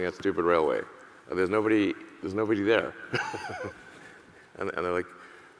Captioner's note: laughs